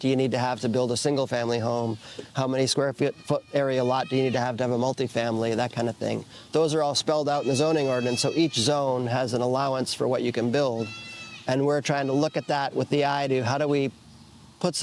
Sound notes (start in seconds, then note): 10.8 child crying in background